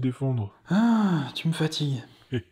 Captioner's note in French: Soupir